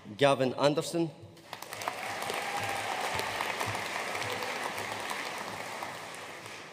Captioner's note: audience cheering and applauding